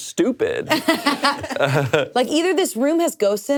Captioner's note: laughing